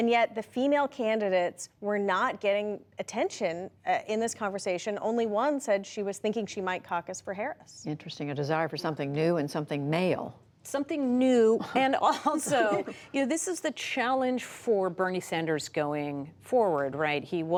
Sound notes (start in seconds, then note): 12.0 laughter